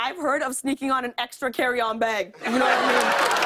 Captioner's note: laughter and applause